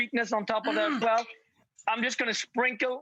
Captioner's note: grunts